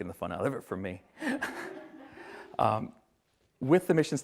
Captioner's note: everyone laughs